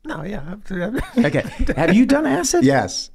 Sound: Charlie laughs

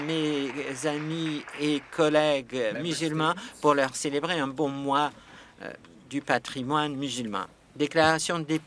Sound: some Applause

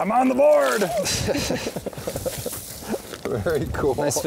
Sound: laughs

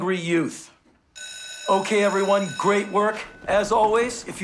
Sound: school bell rings

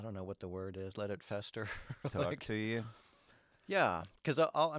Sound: chuckles

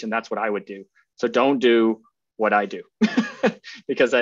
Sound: laughs

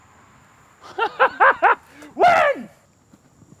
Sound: laughter

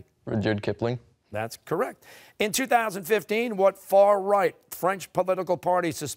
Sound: none

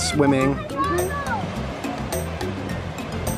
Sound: indistinct conversation; ocean sounds

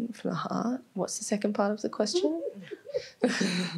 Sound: laughing; laughs

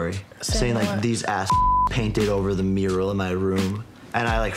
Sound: beep

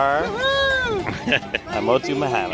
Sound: laughing

